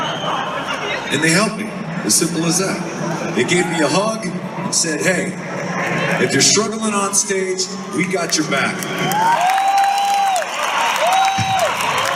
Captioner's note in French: Applaudissements